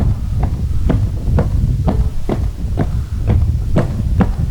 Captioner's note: footsteps